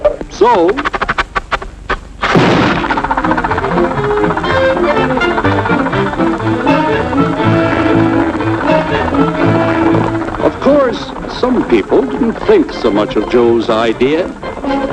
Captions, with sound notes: So... [EXPLOSION] [ENGINE RUNNING] Of course, some people didn't think much of Joe's idea.